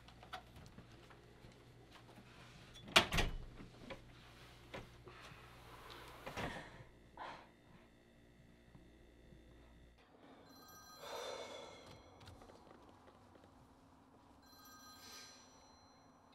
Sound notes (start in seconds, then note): 10.5 phone ringing